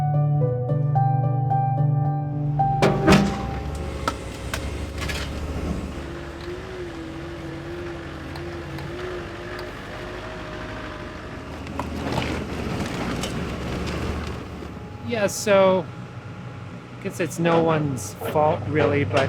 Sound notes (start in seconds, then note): 2.8 rocks banging; 6.5 engine whirring